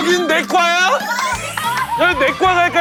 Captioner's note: cheers